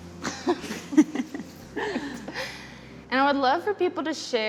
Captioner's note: laughing